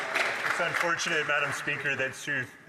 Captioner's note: some Applause